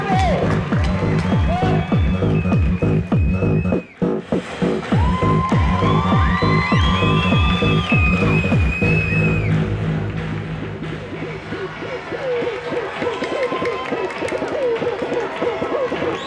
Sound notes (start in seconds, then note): 0.0 applause; 4.2 techno; 7.2 cheering